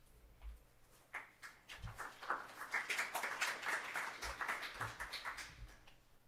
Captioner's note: applause